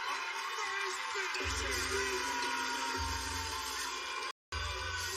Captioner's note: buzzer blares